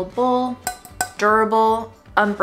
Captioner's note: tapping on metal